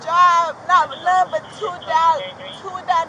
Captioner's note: radio chatter